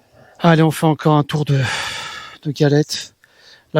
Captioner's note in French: soupir